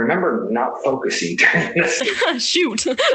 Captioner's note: both laugh